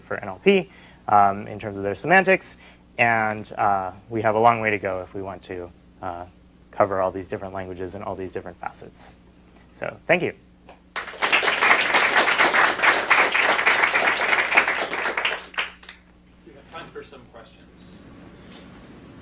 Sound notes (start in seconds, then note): 10.9 applause